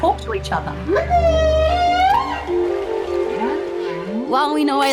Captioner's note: humming, squeaking